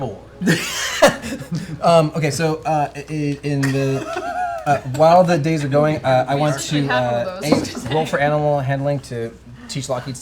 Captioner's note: laughs